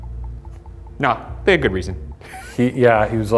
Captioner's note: chuckles